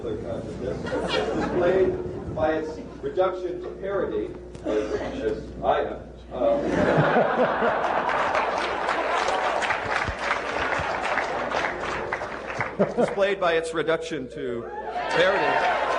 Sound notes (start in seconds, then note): 6.6 laughter, applause